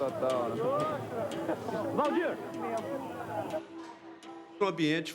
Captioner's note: chattering